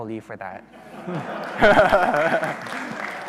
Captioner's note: audience laughing; chuckling; audience applauding